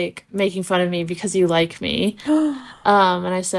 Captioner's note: gasp